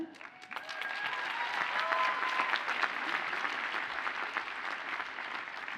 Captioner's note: audience cheers and applauds